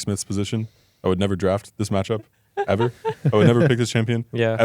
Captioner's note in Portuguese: risos